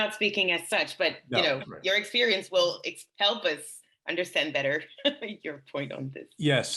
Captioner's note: laughs